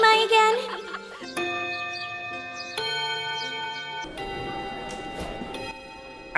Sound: bell chime

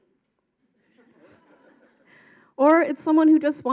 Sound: audience laughs

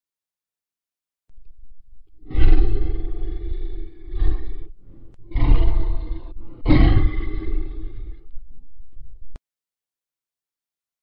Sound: growls

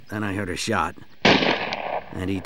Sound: single gun shot

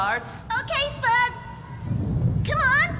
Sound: thunder Rumbling

